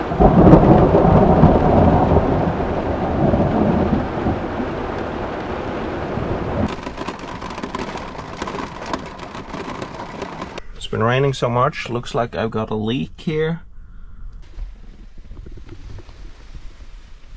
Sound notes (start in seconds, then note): 3.8 rain; 3.8 thunder